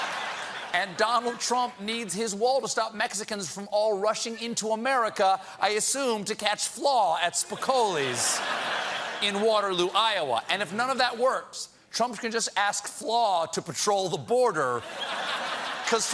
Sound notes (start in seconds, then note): 1.1 laughter